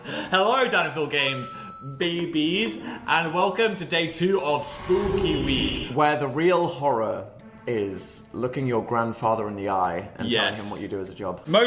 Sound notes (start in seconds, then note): none